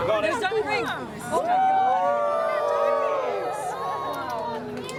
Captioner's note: cheering